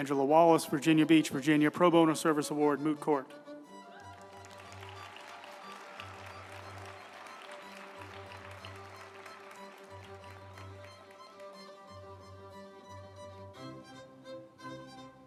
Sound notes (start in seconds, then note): 3.8 group applauding; 4.3 uplifting music